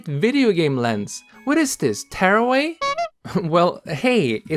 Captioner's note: honk